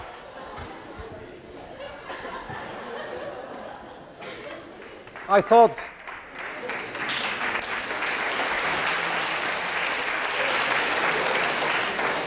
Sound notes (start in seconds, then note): 7.9 class applauds